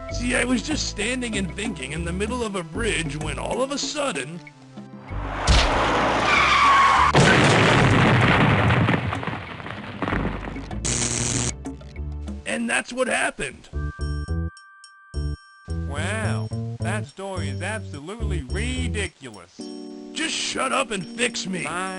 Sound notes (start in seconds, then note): 5.2 screech, explosion; 10.8 zap